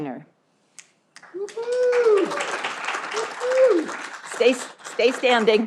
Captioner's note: audience applauding